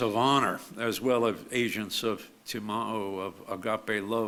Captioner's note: speaks foreign language